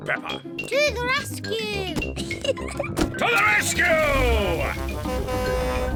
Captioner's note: horn blares